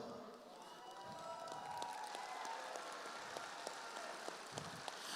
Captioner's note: audience applauds